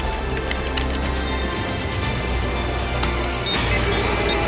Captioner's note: keys clacking